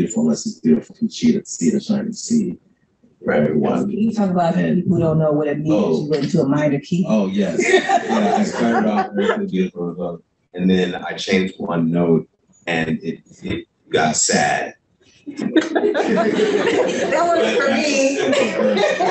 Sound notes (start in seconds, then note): 7.0 laughs; 15.3 laughter